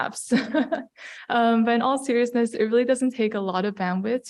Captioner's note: laugh